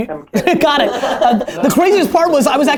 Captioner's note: laughter